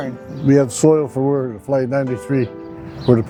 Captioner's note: pat